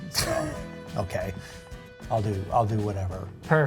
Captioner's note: laughs